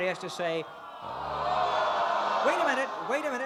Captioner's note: crowd groaning